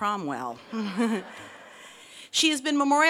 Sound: laughs

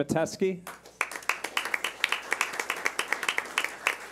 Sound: clapping

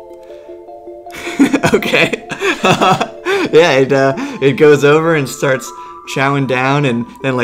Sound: laughs

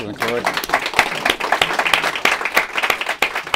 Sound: applause

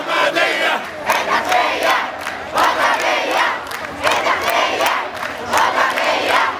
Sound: chants

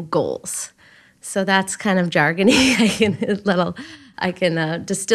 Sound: chuckles

